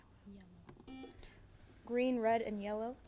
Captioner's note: buzzer